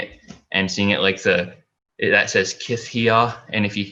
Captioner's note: foreign language